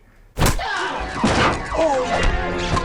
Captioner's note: grunts